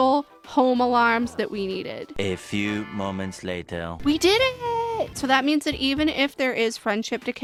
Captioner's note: french accented male narrator voice